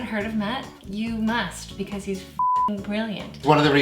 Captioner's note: beep